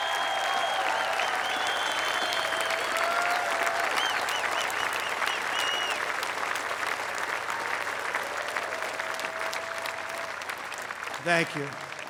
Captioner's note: applause